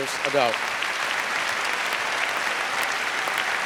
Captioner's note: applause